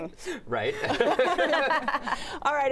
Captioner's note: laughter